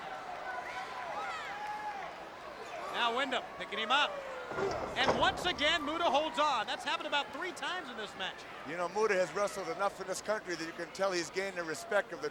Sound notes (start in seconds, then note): 0.6 crowd chattering